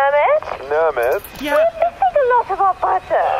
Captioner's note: communicator beeps